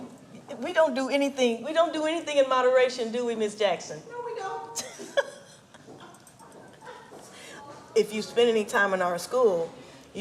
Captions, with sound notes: We don't do anything in moderation, do we Ms.Jackson? - No, we don't. (women chuckling) - If you spend any time in our school,